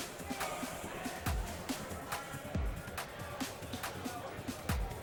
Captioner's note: people chattering